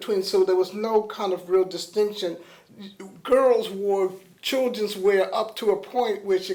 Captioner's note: none